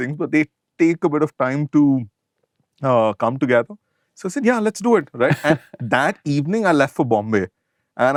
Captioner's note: laughter